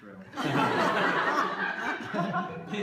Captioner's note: laughter